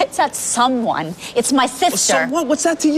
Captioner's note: laughs